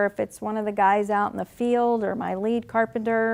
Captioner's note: none